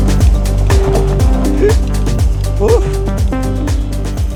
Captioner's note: laughs